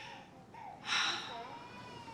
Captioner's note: sighs